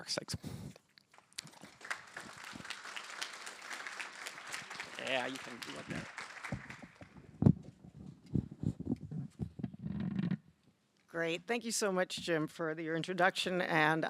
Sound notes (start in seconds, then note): 5.1 applause